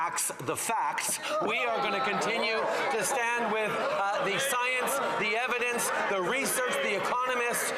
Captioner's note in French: voix de l'interprète